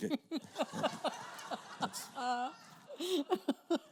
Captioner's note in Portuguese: risos da plateia